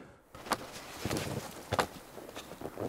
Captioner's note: Schneeknirschen